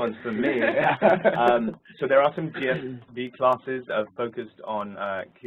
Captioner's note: laugh